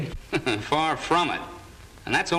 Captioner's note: laughs